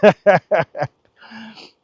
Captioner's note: laughs